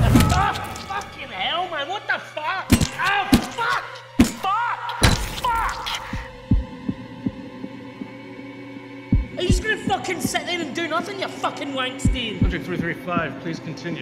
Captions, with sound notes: Fucking hell man. What the fuck. [repeated hits] Fuck. Are you just going to fucking sit there and do nothing you fucking wank stain? Subject Three Three Five, please continue.